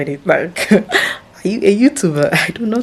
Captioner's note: laughs